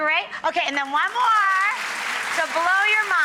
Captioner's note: audience applauding